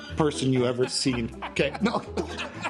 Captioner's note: laughs